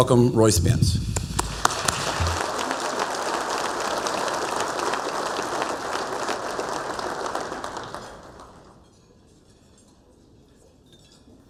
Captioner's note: applause